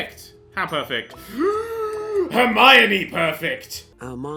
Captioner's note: gasps